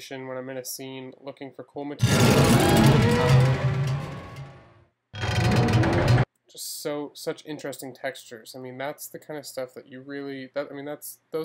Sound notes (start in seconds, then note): 2.0 metal rattling; 2.0 metallic distorting